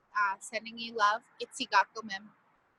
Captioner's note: speaking in foreign language